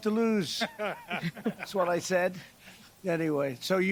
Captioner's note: laughter